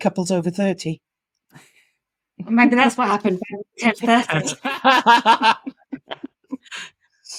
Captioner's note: both laughing